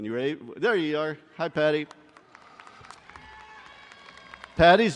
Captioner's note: crowd cheering